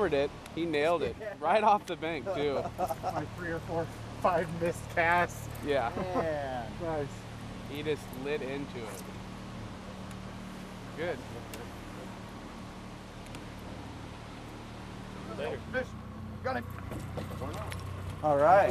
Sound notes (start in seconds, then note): 2.3 laughing; 9.6 rod whipping